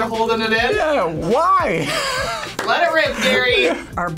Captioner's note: laughs